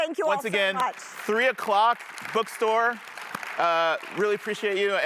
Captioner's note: audience applauding